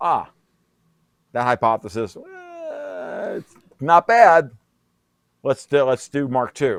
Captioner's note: imitates crying